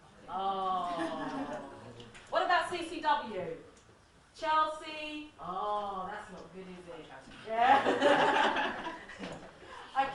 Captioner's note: laughs